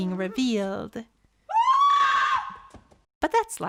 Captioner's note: scream